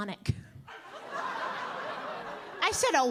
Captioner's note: audience laughing